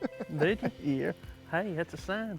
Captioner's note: laughing